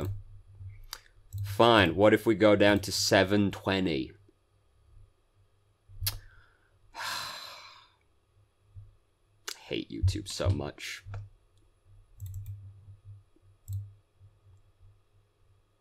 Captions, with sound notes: Fine, what if we go down to 720? [sigh] Hate YouTube so much.